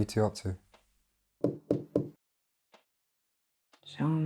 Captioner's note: knocking on door